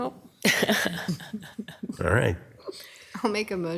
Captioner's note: laughing